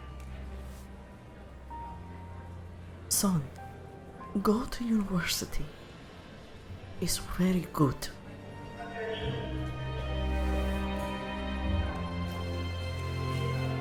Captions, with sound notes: (soft music) Son, go to university. It's very good. (woman mumbling in speaker) (soft music)